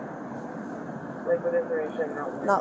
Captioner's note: radio chatter